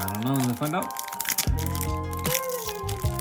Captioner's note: rustle